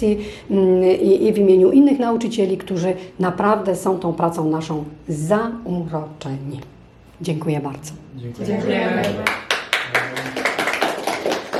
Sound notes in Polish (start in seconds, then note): 9.0 Aplauz